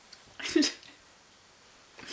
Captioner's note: chokes up, giggles